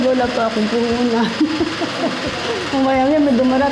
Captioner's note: laughs